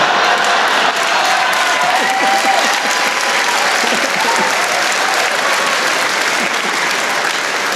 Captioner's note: cheering